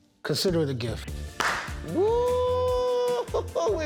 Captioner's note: claps; laughs